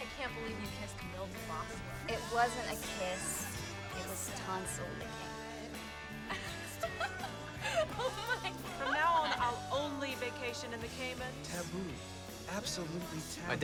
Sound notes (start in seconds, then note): 6.2 Londyn laughs